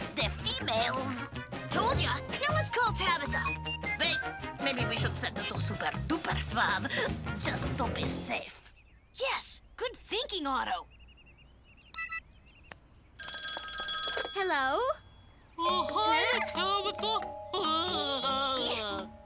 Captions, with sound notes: Look at how it melts the females. - Told ya! Now, let's call Tabitha. (phone beeping) - Wait, maybe we should set it to super duper suave. Just to be safe. - Yes! Good thinking, Otto! (device beeps) (phone ringing) - Hello? - (nerdy voice) Uh, hi, Tabitha (Otto stuttering) (Tabitha growling)